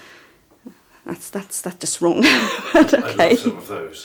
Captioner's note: laughing